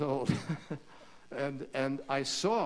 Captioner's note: laughter